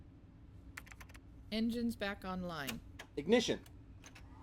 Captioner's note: computer voice